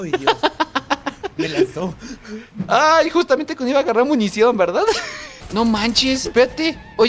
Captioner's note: laughs; laughter